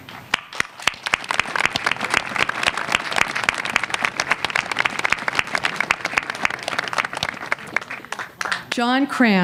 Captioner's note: applause